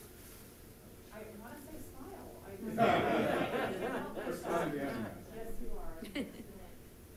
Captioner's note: audience laughing